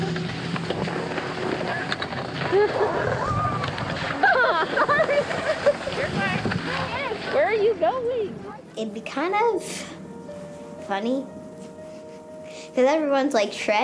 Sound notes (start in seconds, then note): 1.9 snow crunches; 4.4 girls squealing delightfully